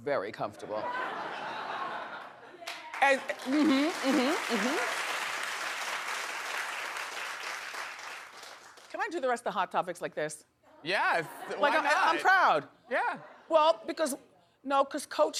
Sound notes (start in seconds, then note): 2.2 audience laughing; 2.6 audience applauding